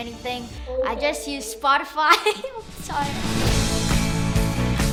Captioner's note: laughs; upbeat music